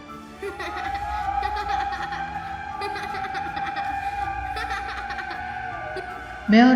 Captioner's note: child Laughing